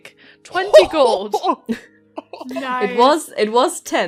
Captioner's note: Rik laughs